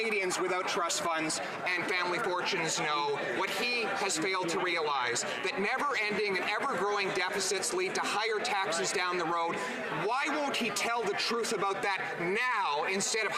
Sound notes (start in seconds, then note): none